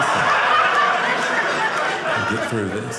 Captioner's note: audience laughing